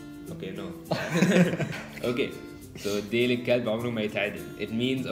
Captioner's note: Arabic